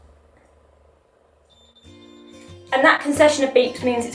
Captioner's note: machine continues beeping slowly; fast beeping